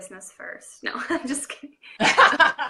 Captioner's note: laughing